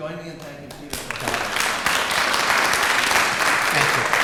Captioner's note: applause